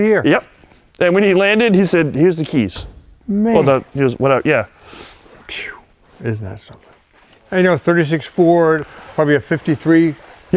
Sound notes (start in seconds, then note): 4.7 inhales and exhales